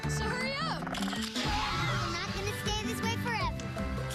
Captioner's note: screams